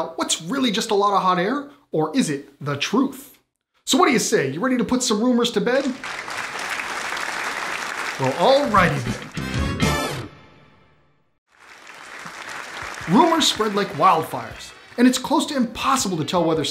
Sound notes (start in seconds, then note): 5.7 applause; 8.5 punchy brass music; 11.4 applause